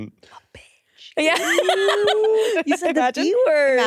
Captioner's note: laughs